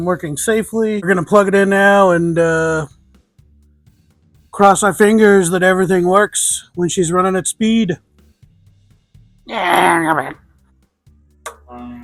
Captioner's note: grumbling sounds